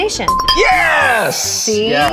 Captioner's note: bell dings